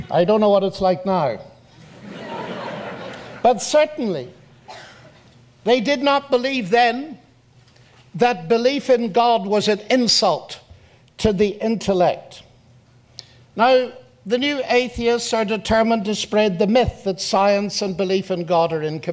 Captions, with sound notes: I don't know what it's like now. [Audience laughs] But certainly, they did not believe then that belief in God was an insult to the intellect. Now, the new atheists are determined to spread the myth that science and belief in God are